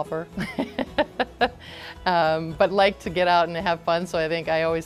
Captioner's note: laughs